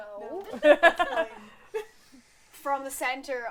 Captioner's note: laughter